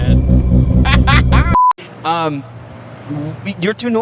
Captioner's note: laughs